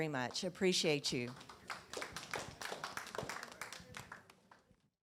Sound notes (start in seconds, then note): 4.0 audience applauding